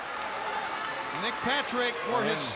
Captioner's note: attendees applauding